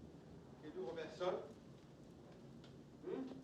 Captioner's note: interrogation in french